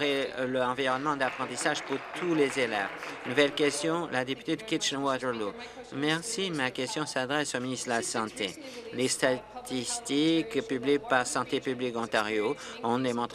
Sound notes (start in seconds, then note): 4.7 applause